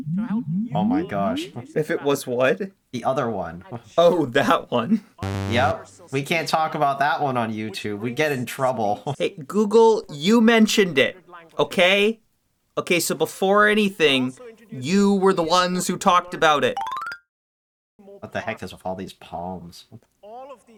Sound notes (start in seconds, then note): none